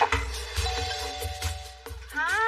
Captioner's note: doorbelrings